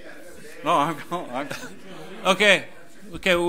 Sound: overlapping chattering

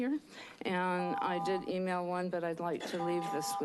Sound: beeping; beeping

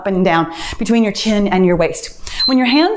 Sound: timer beeps

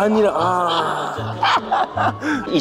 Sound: deep sigh

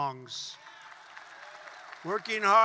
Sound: applause

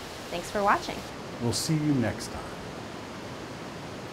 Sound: sounds of waterfall

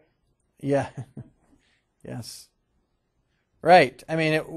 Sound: chuckling

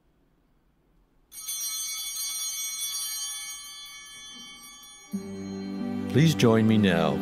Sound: chimes ringing

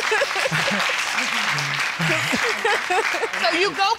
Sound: audience applauding

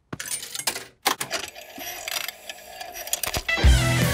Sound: clicks, whirring; heavy metal music plays

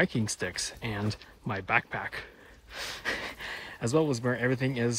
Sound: chuckles

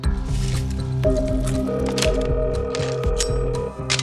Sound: telephone ringing

